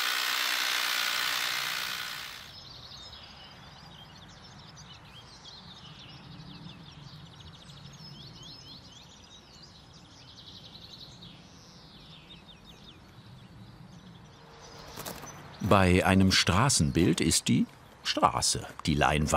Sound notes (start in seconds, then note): 2.4 birds chirping